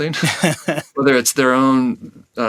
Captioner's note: laughs